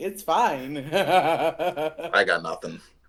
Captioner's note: demonic cackle